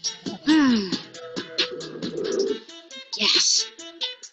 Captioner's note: sighs